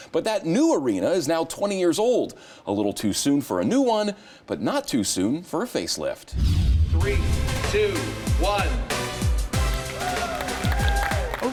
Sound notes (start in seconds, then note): 6.3 air whooshes; 6.4 exciting music; 9.4 exciting music continues; 9.8 crowd whooping